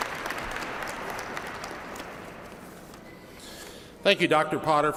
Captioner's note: applause